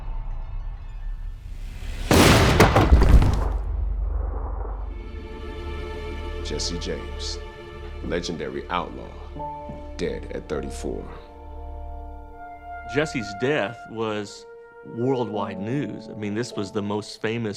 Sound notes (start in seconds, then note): 1.8 gunshot